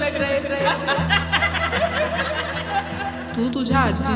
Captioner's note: boys guffawing